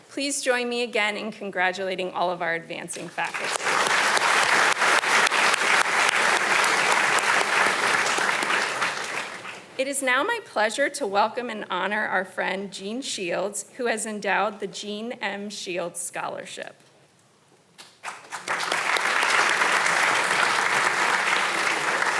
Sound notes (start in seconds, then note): 3.1 audience applauding; 17.9 audience applauding